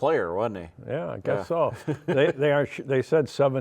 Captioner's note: laughs